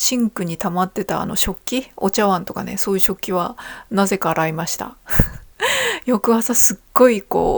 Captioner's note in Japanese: 笑い